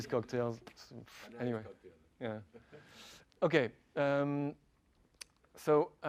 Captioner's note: laugh